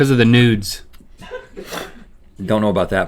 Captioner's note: crew laughing